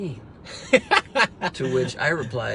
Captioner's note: laughs